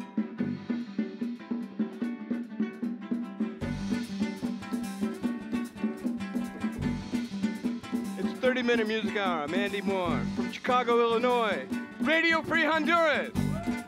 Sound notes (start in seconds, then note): 7.2 hablando en Inglés